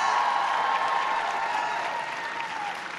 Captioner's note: applause